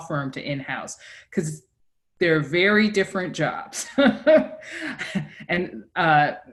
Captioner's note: laughs